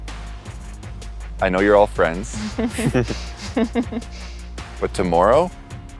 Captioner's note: laughing